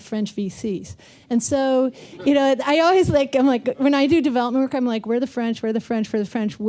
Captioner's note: laughter